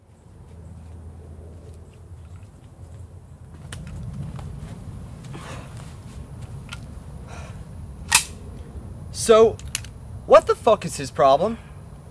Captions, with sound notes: (pistol magazine clicks) So... What the fuck is his problem?